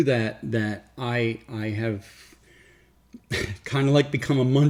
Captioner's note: laughs